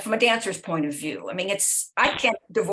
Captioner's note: none